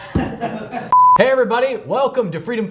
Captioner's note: beep